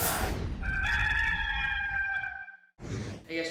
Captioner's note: cock crows